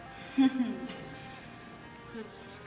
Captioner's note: Elizabeth chuckles